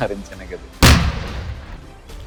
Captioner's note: bomb explosion